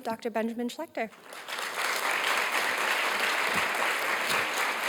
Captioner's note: audience applauds